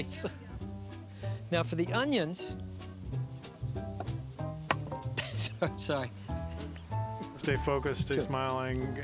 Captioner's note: laughing